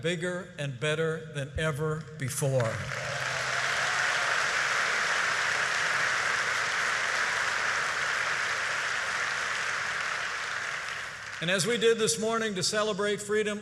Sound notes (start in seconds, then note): 2.5 applause